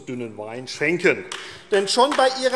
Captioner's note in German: Beifall AfD